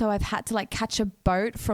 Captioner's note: none